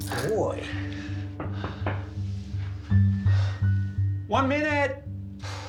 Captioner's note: someone knocking at the door